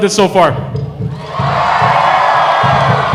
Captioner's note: cheering